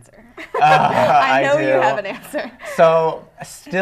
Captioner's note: laughing